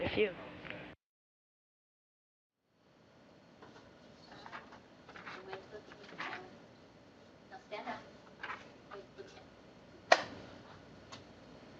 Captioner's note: silence